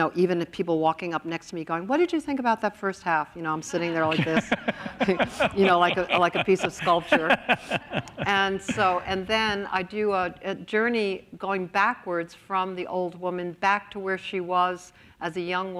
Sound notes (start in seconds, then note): 3.7 laughs; 5.5 laughter